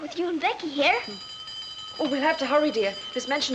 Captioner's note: bell ringing